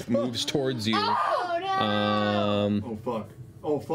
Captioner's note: screaming